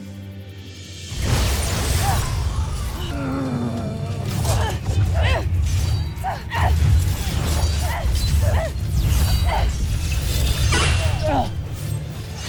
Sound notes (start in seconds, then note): 1.0 grunts; 1.2 weapon blast; 3.2 growls; 4.2 grunting & growling; 5.5 weapons clanging & swishing; 10.1 grunts; 10.1 weapons swish, then clang